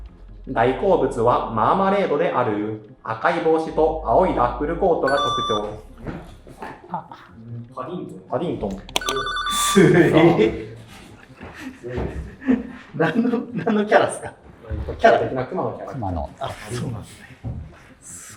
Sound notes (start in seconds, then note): 10.9 laughing